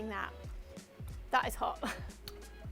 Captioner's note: laughs